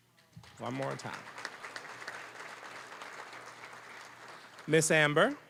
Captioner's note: applause